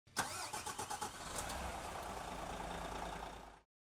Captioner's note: engine starting